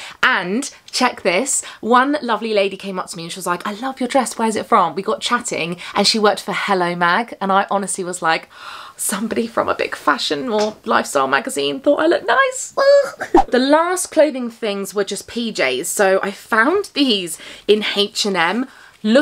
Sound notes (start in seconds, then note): 12.8 giggles